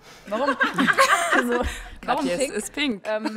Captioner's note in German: Gelächter